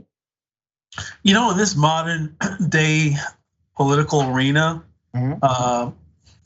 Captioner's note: cough